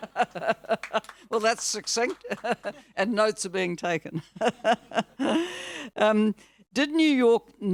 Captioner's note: audience laughing; laughs; laughs